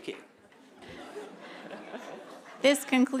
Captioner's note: laughter